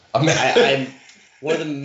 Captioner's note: chuckling